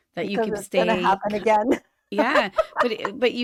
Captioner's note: laughter